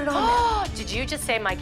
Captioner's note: gasps